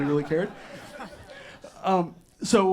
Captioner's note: audience laughs